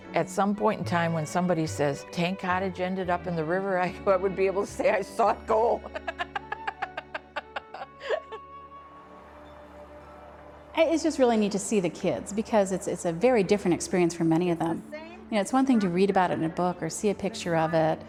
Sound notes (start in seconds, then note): 7.3 laughs